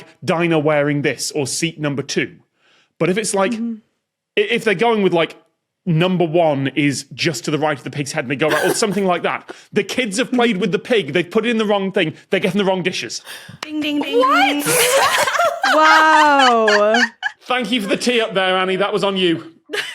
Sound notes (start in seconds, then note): 13.8 laugh